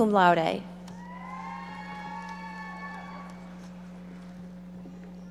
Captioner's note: audience members shouting